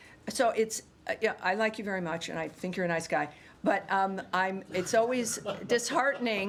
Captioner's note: laughter